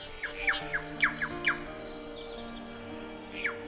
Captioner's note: bird chirps